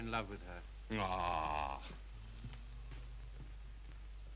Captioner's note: Harry groans